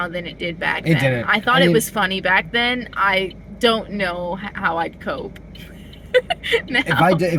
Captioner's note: laughing